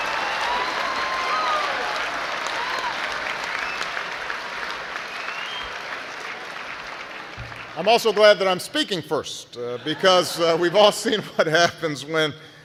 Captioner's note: laughter, applause